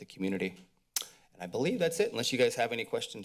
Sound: mouth clicks

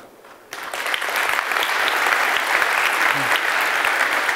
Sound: applause

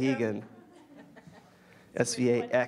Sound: audience laughs

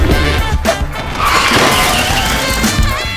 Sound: tires squeal

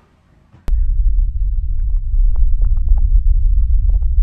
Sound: constant low-pitched earthly rumble

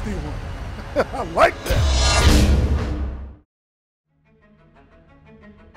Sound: giggles; air whooshing; soft suspense music

